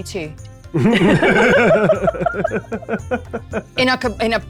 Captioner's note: players laughing